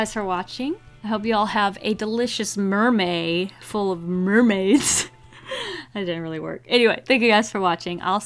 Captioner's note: laughs